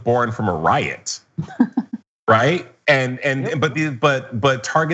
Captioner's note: laugh